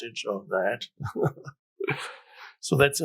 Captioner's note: Eckhart laughs